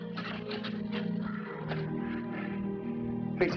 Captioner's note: gasping